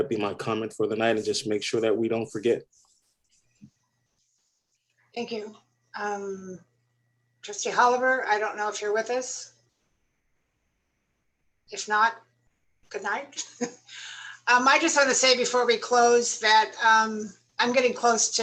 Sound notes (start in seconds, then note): 13.3 laughter